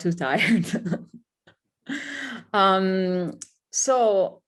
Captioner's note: laughs